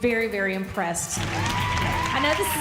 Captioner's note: cheerleaders cheering